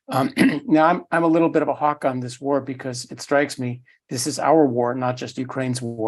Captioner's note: cough